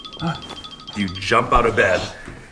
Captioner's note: alarm sounding